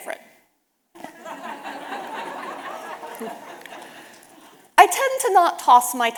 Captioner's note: audience laughing